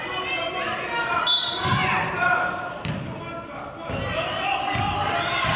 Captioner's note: whistle blows